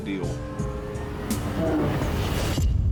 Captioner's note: bear roars